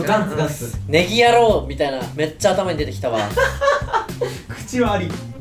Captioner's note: laughs